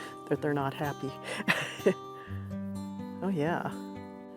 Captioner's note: laugh